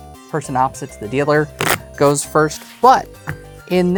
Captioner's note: cards riffling